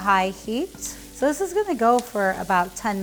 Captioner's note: pan sizzling